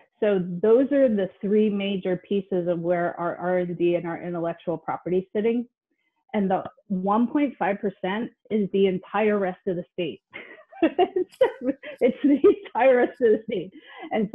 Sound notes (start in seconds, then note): 10.6 laughs